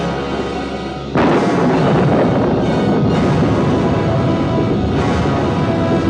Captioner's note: thunder continues rumbling